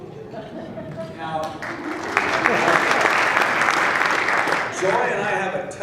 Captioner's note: laughing; applause